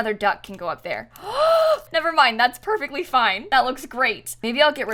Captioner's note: gasps